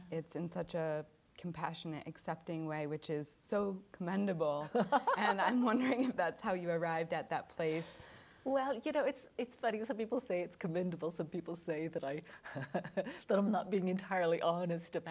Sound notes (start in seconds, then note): 4.6 laughing; 12.5 chuckling